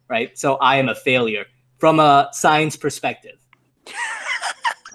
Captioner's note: snickers